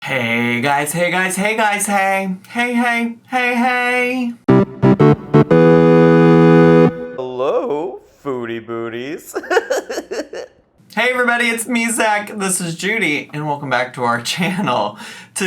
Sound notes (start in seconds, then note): 4.4 electronic music; 9.3 laughs